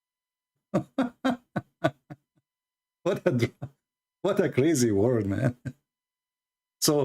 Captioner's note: Ketawa